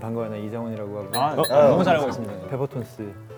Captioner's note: politely formal and respectful